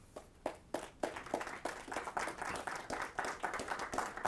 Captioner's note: audience applauds